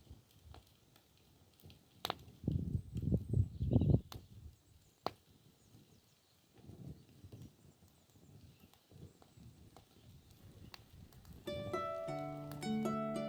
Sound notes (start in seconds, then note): 3.2 popping sticks and sizzling